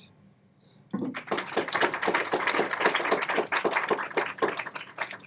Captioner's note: audience applauds